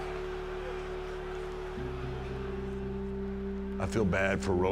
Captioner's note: crowd cheering; gentle music